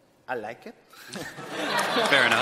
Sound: chuckling

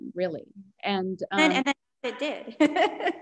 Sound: chuckles

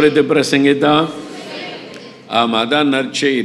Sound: crowd

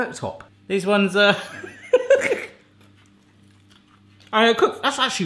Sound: laughing

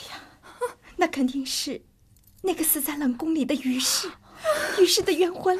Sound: gasp

